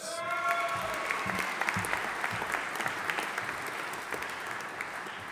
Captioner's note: audience applauding and cheering